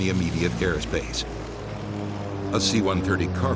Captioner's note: turboprops drone